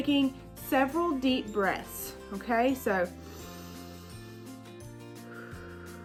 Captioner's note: deep breaths